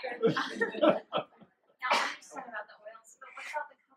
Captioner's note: laughter